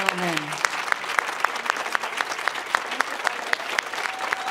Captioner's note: audience applauding